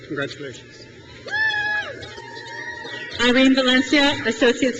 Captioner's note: crowd cheers